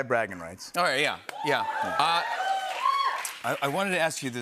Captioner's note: cheering